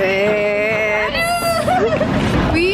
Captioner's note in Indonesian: Ketawa